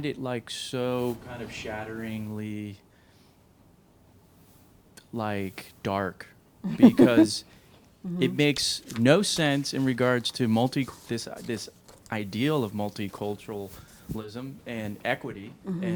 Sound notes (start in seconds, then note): 6.6 she chuckles